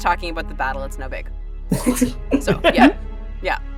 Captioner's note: chuckle